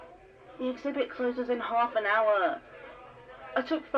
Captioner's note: quieter crowd ambiance